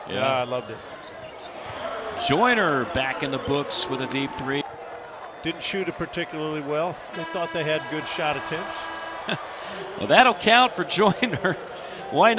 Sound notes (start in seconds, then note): 8.8 buzzer